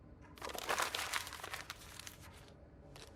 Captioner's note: crumpling paper